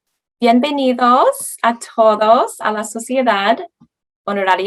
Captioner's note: woman speaking Spanish